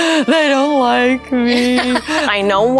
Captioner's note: laughing